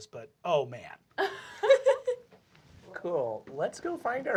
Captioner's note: laughter